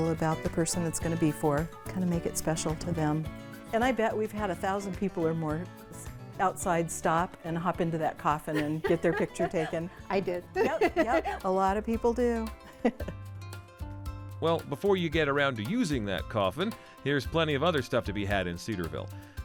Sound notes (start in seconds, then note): 8.5 laughs